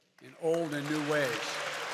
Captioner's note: applause